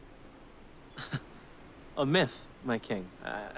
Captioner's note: laughs